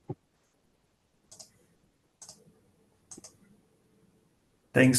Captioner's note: mouse clicking